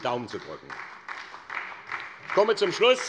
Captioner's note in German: Beifall bei der SPD